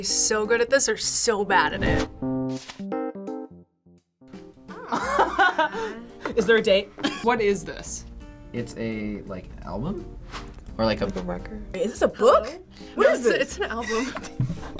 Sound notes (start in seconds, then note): 4.7 laughs